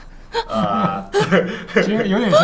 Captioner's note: laughter